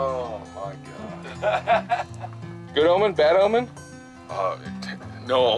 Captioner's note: l lauaughghs s